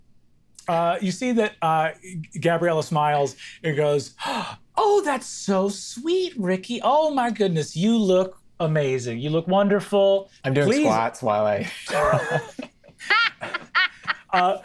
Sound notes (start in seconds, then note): 11.8 players laughing